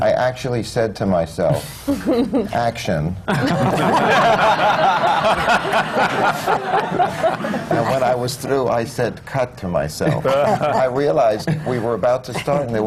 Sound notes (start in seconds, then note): 0.0 laughs; 3.2 laughter; 10.5 laughter